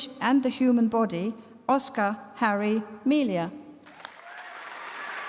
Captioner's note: applause